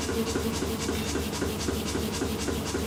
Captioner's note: repeated Pumping